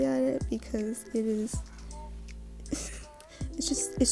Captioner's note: laughs